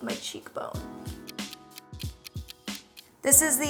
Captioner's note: clock ticking